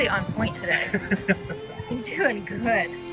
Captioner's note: chuckling